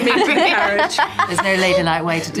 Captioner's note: Harriet laughing; laughing